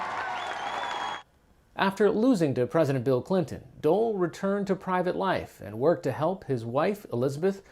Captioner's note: applause